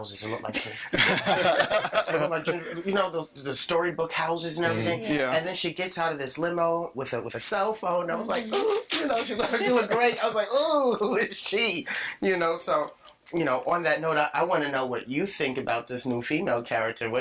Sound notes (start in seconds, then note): 0.4 all laughing; 8.2 giggling; 11.5 laughing